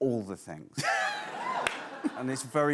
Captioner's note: laughs